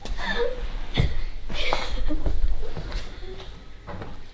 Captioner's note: laughing